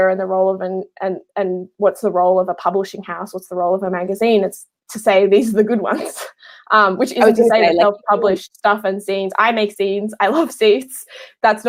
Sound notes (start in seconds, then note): 7.1 murmurs